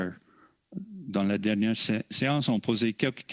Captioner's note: speaking French